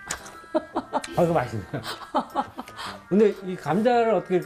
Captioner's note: A genuine laugh of contentment